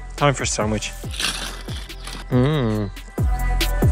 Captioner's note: unwraps sandwich